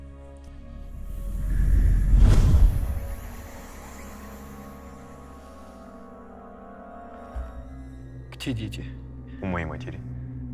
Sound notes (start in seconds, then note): 2.1 sounds of magic